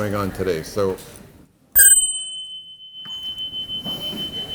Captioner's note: bell rings